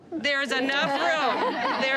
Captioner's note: laughter